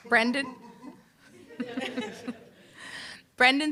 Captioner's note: laughter